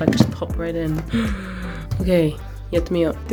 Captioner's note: excited gasp